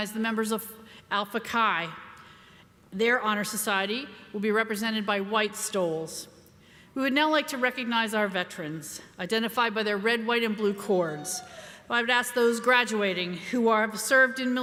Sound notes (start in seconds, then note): 11.1 crowd member cheering